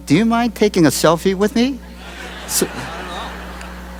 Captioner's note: laughter